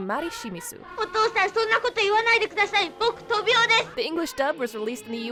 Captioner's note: speaking in foreign language